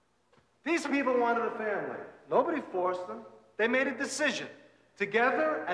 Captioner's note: none